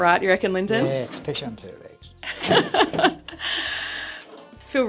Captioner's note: laughter